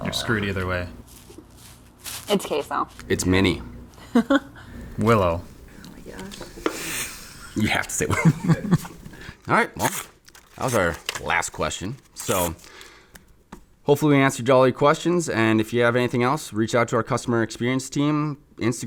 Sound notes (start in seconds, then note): 4.0 laughs; 7.9 chuckles